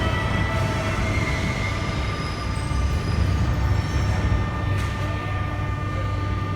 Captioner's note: opening doors of the arriving train